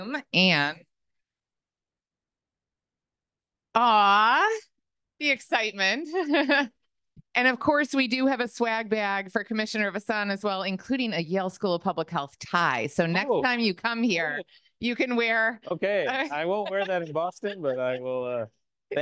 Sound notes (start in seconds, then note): 6.6 laughs